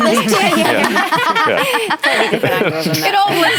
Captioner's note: laughter